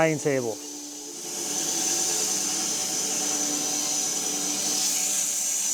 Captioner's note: woodcutting machine hissing